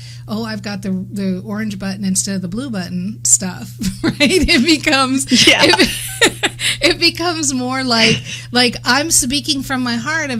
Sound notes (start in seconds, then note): 5.3 laughs; 5.3 laughter